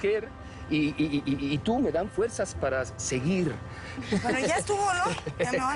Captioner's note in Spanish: Risas